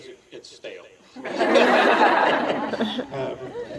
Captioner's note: laughter